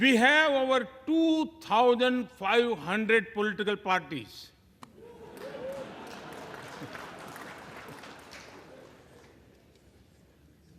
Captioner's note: applause